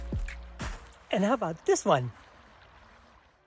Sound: stream ripples in background

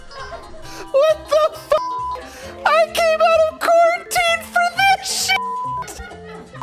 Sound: beep

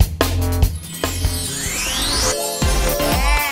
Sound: upbeat music; fairy sound effect

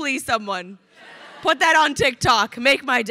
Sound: crowd laughing

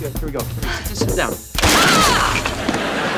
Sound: thudding

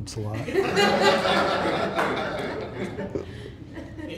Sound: laughter

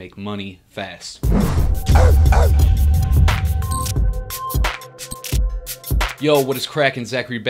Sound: rhythmic music; dog barking

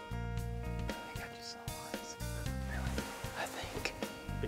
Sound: whispering

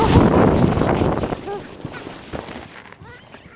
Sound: laughing

